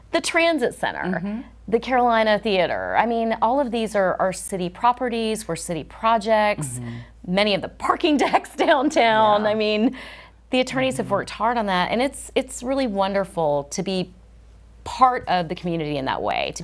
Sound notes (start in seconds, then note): 6.6 chuckles